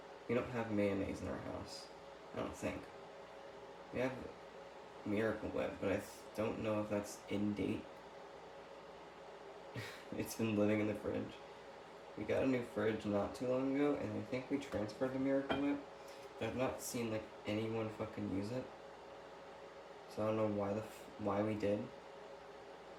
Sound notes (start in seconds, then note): 9.7 chuckle